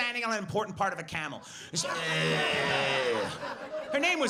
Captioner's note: heavy breathing